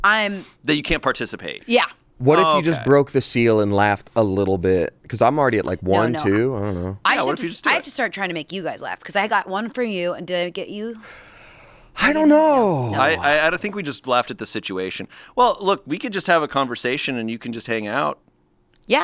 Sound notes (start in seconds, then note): none